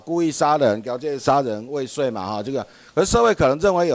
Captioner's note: minnan dialect